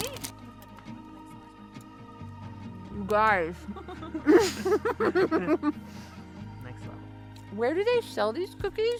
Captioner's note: giggles happily